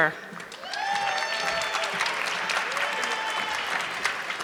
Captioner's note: audience clapping